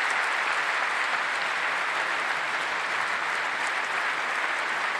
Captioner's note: applause